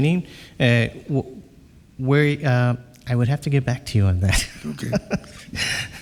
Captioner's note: laughs